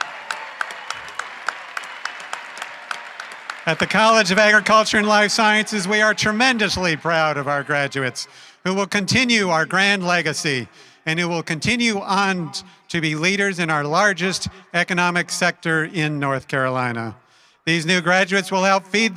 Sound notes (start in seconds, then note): 5.2 applause